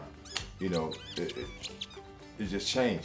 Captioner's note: toy squeaking